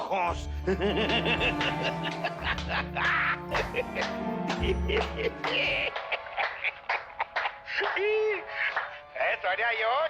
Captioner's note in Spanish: Risas